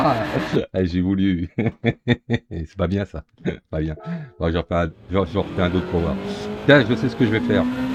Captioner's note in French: rires